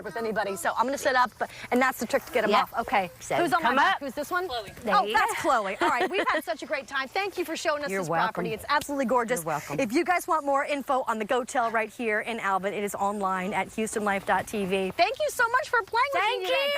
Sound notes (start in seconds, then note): 1.1 laughter